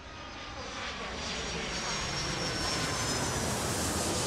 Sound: plane engine roaring

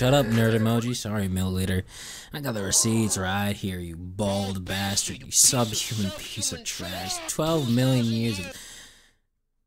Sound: inhale

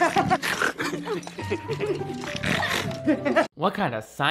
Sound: laughs nervously; snorts

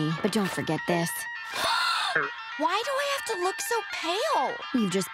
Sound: gasps

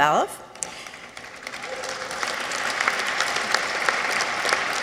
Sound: audience applauds

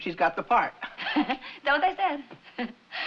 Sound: laughing

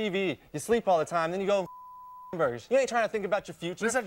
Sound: beep

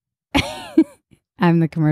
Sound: laughs

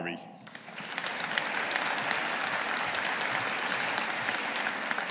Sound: audience applauding

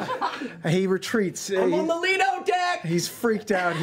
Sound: shouting

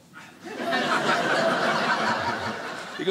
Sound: audience laughing

